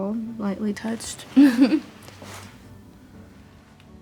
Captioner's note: chuckles